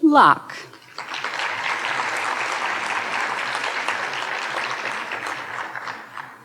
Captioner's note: audience cheering and applauding